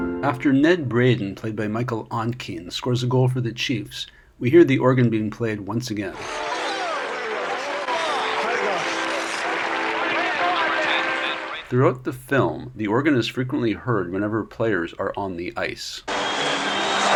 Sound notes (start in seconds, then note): 6.2 applause and organ music